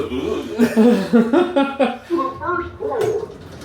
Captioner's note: laughs